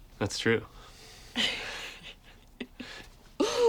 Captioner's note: both laugh